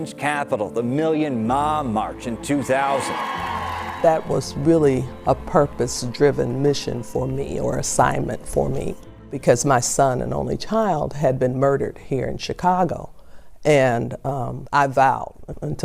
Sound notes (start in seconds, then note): 3.7 people cheering